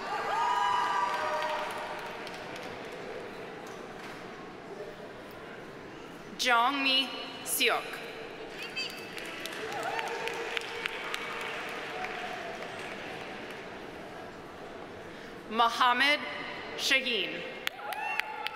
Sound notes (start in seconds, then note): 0.0 audience cheering; 0.3 audience applauding; 8.5 audience applauding; 17.7 audience applauding; 17.7 audience cheering